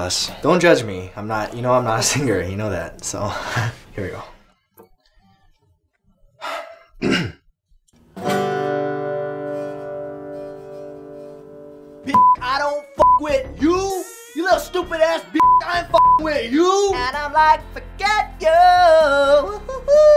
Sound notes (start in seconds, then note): 6.9 sighs and clears throat; 8.2 plays a chord